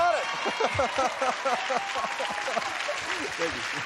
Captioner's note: laughing